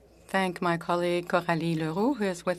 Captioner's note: speaking French